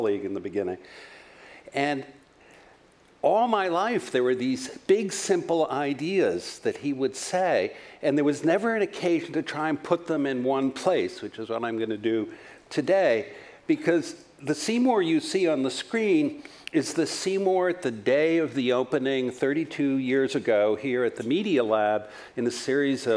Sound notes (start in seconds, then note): none